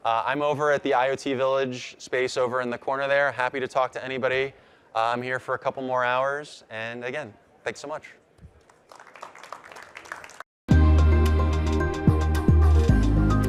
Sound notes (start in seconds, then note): 8.6 audience applauding; 10.7 upbeat music